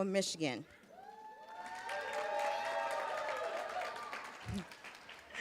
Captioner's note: cheers, applause